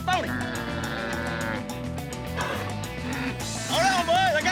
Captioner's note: bull grunting